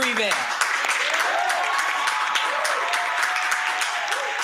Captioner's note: crowd cheering